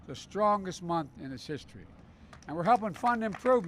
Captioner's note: applause